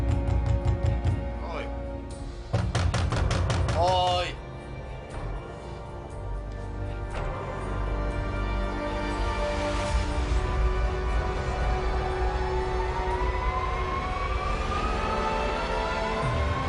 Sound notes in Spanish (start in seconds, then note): 2.5 De nuevo golpean la puerta; 2.5 Golpes en la puerta